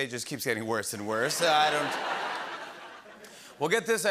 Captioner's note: laughter